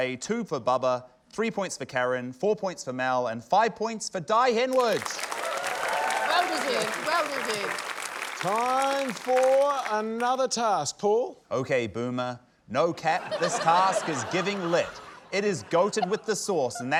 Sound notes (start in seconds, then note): 4.7 applause, cheering